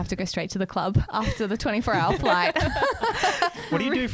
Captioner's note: laughs